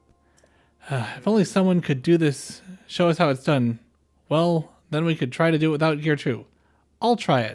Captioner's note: sigh